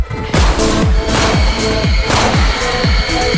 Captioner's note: gunshot sound; noise of terrified crowd